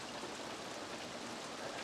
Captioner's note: rain pattering